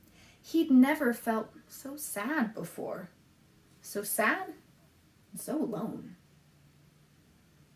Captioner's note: none